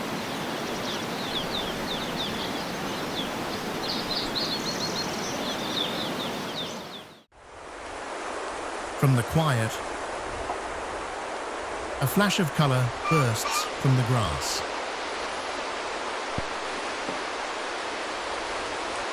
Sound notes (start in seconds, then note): 0.0 birds chirping